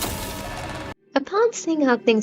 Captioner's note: sentinel growling noises